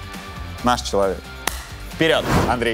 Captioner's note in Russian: хлопок